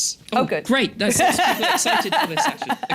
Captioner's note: laughs